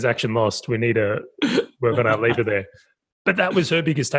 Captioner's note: laughing